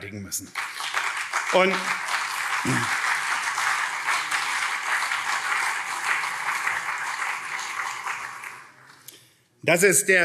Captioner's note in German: Beifall CDU, SPD und vereinzelt Freie Demokraten